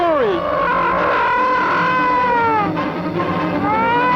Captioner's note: gargon wails